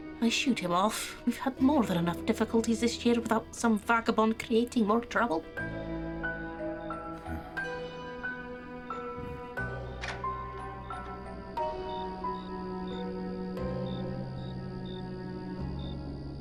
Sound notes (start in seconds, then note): 6.8 Bardo huffs in agreement; 11.7 crickets chirping